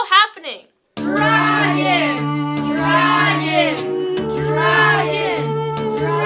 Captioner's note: chanting